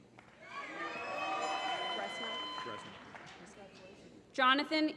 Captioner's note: applause